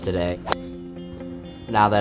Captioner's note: club pinging